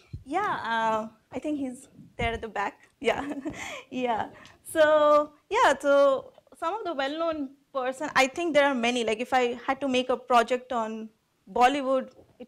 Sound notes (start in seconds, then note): 5.1 laughs